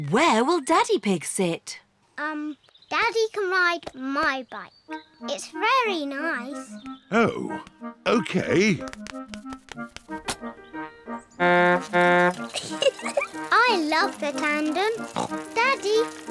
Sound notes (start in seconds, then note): 9.4 toots horn and giggles; 14.9 snorts